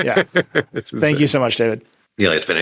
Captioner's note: laughing; laughs